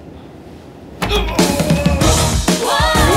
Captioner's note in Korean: 고통스러운 비명; 웅장한 음악